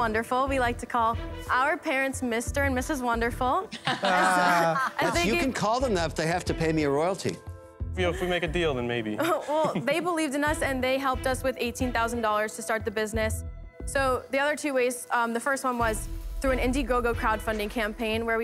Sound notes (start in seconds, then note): 3.7 laughter